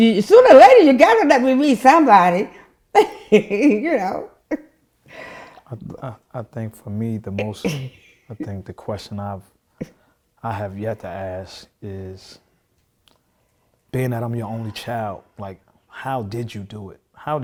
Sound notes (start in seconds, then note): 2.9 laughing